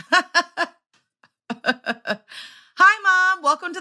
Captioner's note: laughs